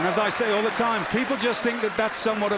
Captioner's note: cheers & applause